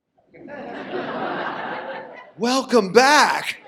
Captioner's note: audience laughs